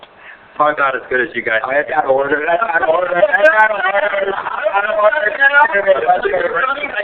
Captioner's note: laughing